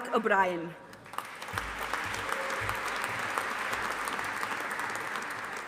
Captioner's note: audience applauding